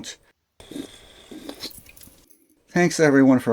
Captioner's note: slurping sound